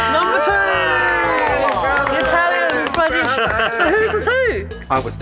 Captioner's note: happy laughter